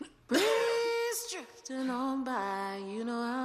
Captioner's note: coughing